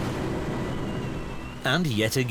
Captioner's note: wind whistling